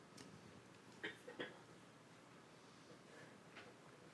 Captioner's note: shuffling